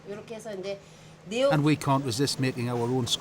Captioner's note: woman speaking Korean